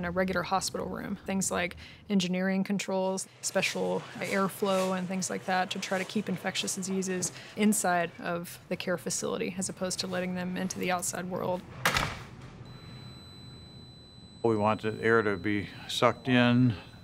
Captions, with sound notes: than a regular hospital room, things like engineering controls, special airflow and things like that to try to keep infectious diseases inside of the care facility as opposed to letting them into the outside world. (door closing) (beeping)